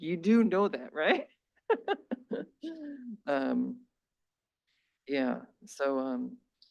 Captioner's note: laughs